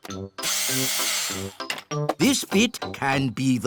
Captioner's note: whirring